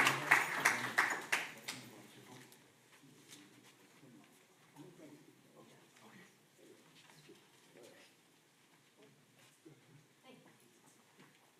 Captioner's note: applause